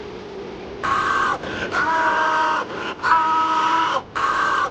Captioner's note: man yelling; man screaming